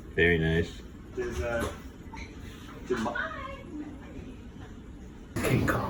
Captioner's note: chitter chatter